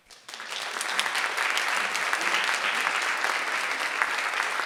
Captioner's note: audience applauds